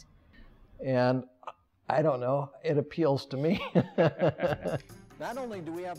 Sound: laughs

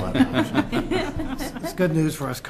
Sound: laughter

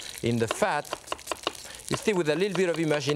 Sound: knife thudding

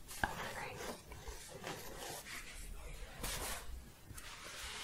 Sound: shuffling

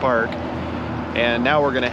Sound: motor revving

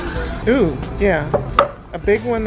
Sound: board clacks

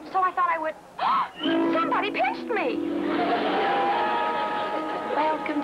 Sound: gasps

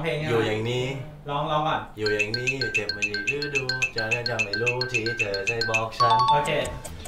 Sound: humming the song

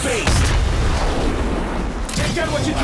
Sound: explosion

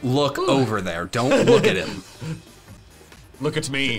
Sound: laughing

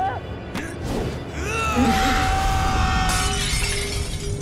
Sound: screaming

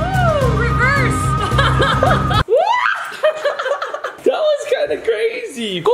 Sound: laughs

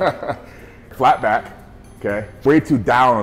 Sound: laughing

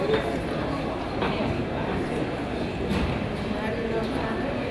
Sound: crowd chatters

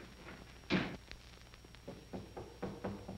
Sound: knocking

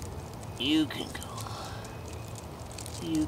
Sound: bird singing

